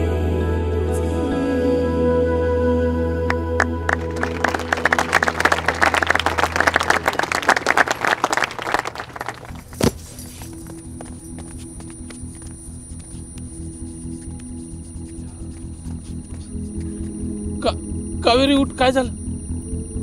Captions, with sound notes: [Everyone clapping] Kaveri... Kaveri, what happened? Kaveri, get up. Get up. What happened?